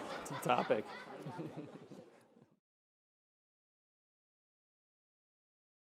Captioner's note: audience and panelists laughing